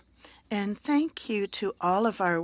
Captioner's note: speaking French